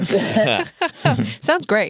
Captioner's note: laughter